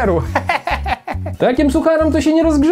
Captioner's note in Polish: Śmiech Antka